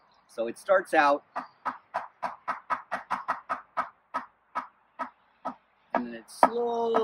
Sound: tapping sounds

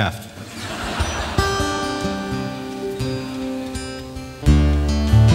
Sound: audience laughing; audience clapping; folk music

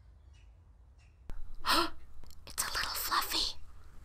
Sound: gasp

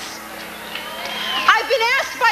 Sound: audience cheers

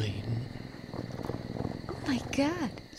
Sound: purring

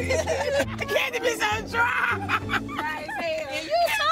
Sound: laughing

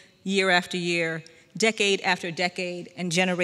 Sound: none

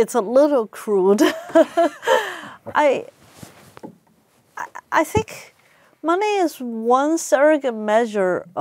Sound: laugh

